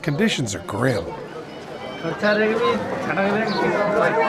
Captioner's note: chatter